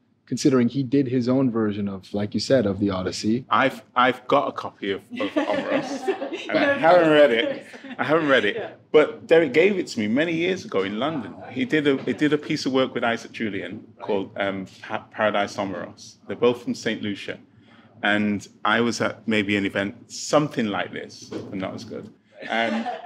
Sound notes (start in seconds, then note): 5.1 participants laughing